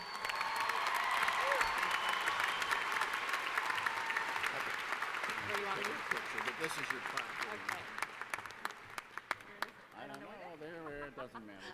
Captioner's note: applause